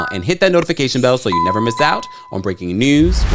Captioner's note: bell dings